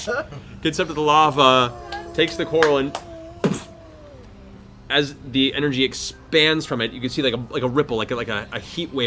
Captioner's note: boof